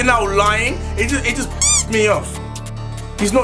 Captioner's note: squeak